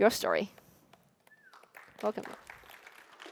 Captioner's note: applause